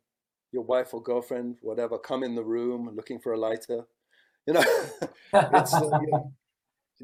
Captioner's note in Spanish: Risas